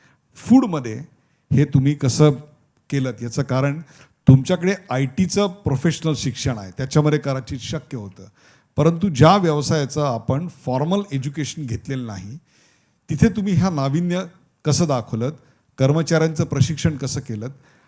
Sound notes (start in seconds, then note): none